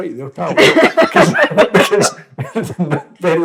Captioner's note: laughter